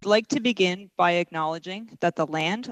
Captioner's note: speaking french